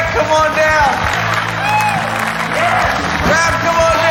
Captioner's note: applause